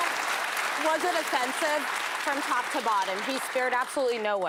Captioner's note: applause